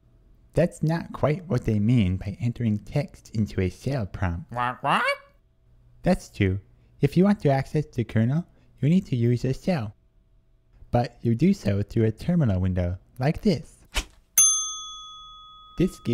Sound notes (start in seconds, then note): 4.7 squawk